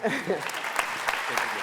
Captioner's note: applause